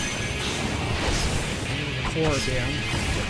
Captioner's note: explosions